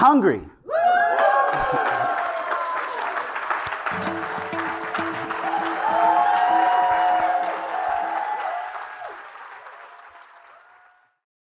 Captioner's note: applause